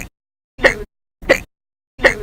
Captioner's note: hic!; hic!